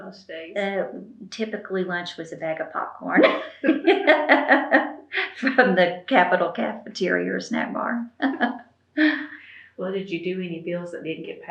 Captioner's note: laughs